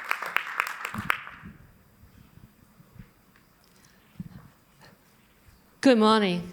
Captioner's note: applause